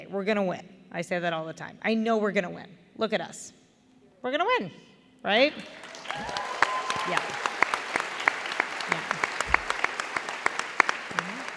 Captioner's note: applause